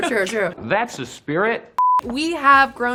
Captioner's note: high pitched beep